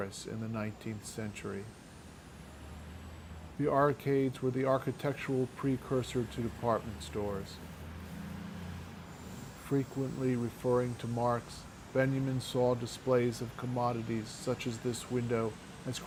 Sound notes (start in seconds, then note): 7.8 large vehicle whooshing